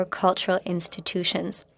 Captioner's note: speaking French